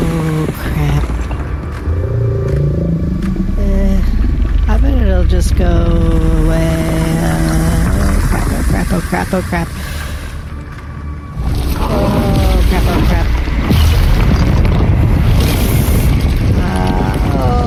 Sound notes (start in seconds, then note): 4.8 the rumbling begins circling him and groaning